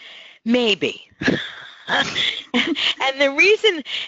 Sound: laughs

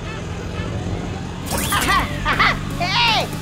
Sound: cheering

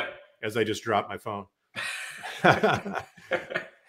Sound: laughs

